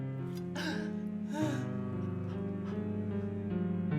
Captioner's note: groaning